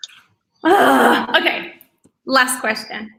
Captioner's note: moaning